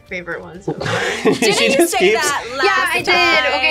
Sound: laughs

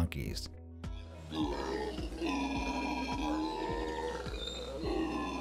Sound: monkey howling

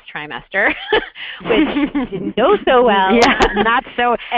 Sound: voiceover

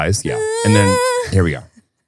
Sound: whines

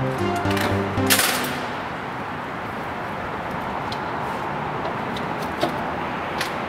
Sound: door opens and closes

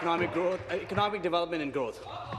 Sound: applause

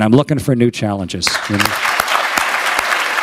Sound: applause

